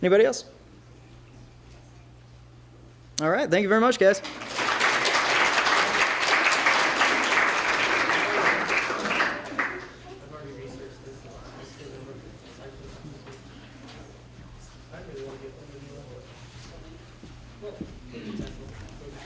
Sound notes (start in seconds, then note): 4.2 applause